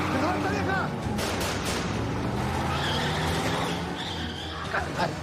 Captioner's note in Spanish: Chirrido de llantas; Disparos